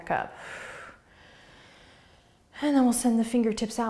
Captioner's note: exhaling